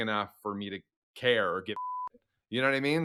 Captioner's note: beeps